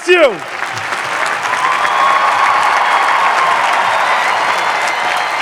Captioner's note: audience applauding